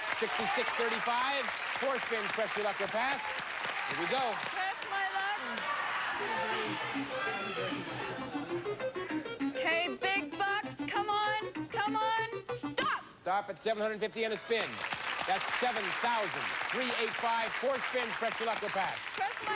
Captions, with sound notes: $6,635. 4 SPINS. PRESS YOUR LUCK OR PASS? HERE WE GO. PRESS MY LUCK. [upbeat arcade game music] OKAY, BIG BUCKS, COME ON. COME ON. STOP! [cheers and applause] THAT'S 7,385. 4 SPINS. PRESS YOUR LUCK OR PASS?